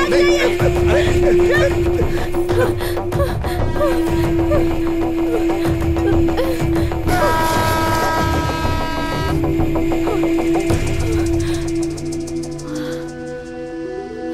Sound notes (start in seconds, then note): 2.0 panting; 3.4 train horn; 5.1 gasping